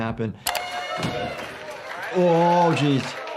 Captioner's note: people cheer